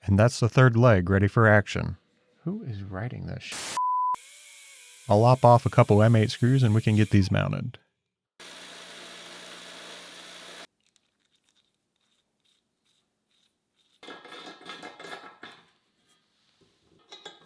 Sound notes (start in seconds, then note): 8.4 machine whirs; 14.2 metal clanks